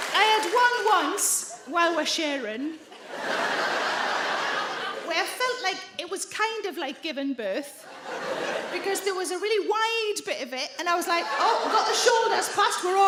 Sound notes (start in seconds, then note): 2.8 audience laugh